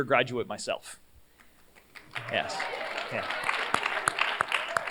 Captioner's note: cheers, applause